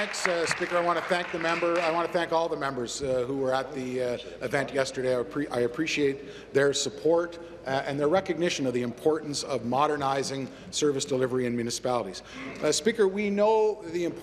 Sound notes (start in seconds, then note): 1.5 applause